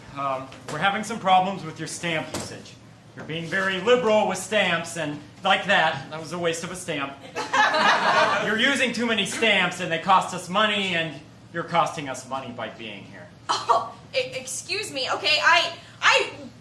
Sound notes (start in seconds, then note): 7.2 laughter